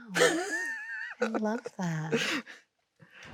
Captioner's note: Chloe laughs